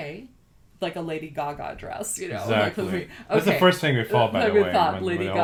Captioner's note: laughs